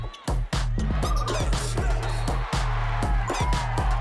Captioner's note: cheering